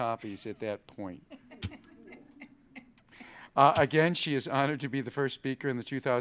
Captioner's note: laughing